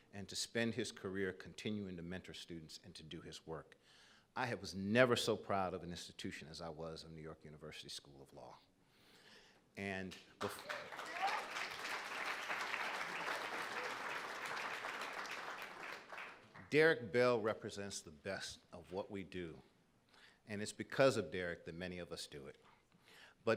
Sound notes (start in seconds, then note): 10.4 audience applauding